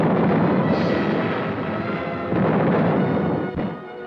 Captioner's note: cannons blasting